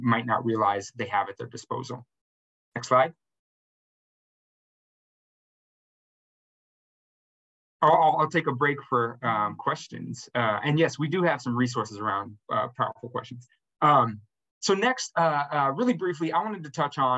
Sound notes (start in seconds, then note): 2.7 silence